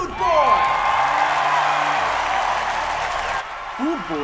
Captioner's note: crowd cheering